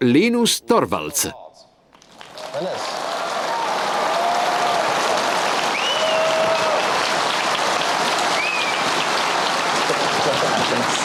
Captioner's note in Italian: Applauso